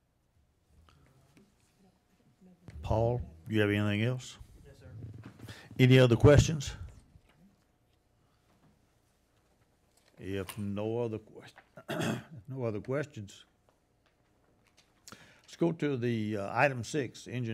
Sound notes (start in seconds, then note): 11.8 coughs